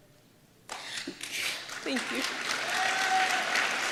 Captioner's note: applause